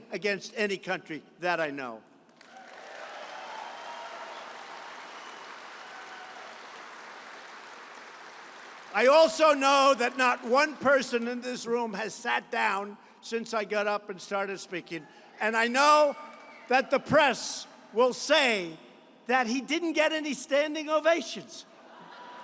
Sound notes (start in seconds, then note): 2.3 applause; 22.2 applause